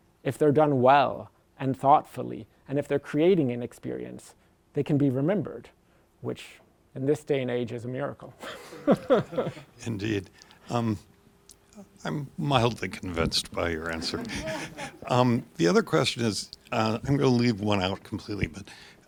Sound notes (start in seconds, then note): 8.4 laughs; 13.8 laughter